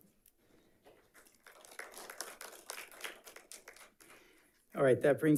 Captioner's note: audience clapping